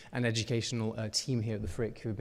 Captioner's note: none